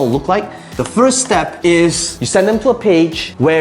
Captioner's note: marker tapping